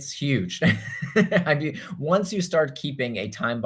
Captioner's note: chuckles